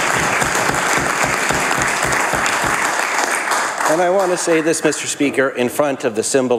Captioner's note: applause